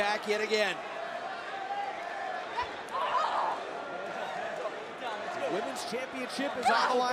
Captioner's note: crowd cheering